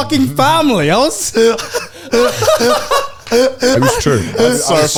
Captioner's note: laughing